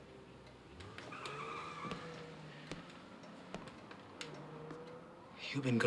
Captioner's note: car tires screech